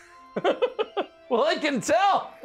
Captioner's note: giggles